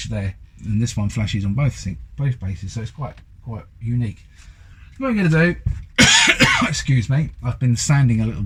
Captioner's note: coughs